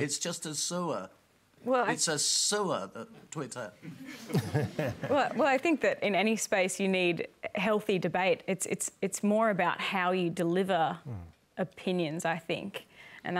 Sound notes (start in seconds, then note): 3.8 laughter